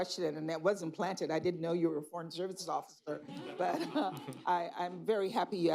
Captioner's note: laughter